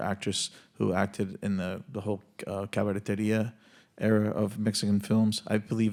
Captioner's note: speaks Spanish